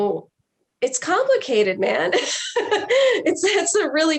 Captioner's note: laughs